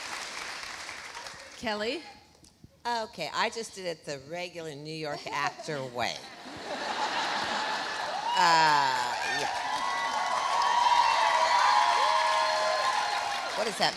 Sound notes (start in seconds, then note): 6.3 audience laughs; 10.3 audience cheering